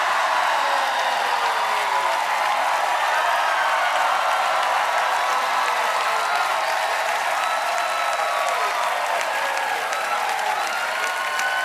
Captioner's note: cheering